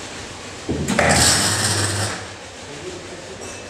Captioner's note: metal noise